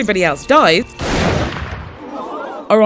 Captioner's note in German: Schuss